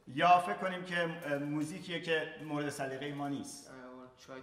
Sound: speaking in farsi

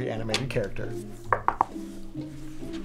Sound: knocks

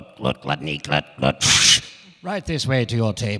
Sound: making whistling noise

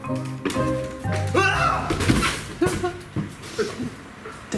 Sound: screams

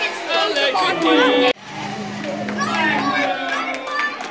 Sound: car race sound effect

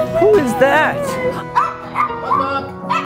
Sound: dog barking

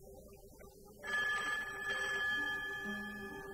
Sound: phone rings

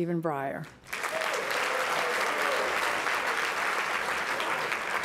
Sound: applause

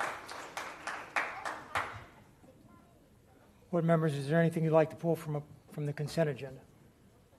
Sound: applause

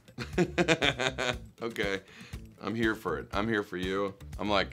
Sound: laughs

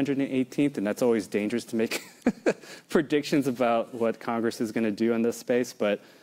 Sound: laughs

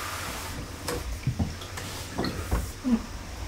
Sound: sound of broth pouring

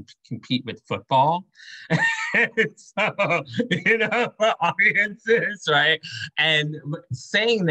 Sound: laughter

